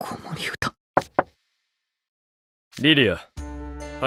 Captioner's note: knock knock